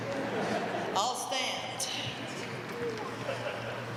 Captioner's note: laugh